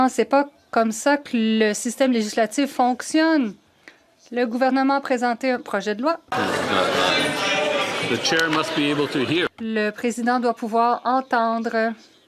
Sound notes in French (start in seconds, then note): 2.7 voix de l'interprète